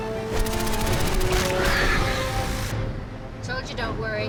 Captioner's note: turret fires; creature screeches